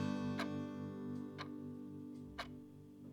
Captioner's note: clock ticking